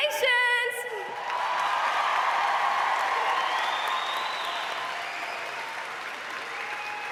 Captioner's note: audience applauds